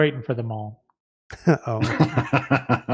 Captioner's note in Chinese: 笑声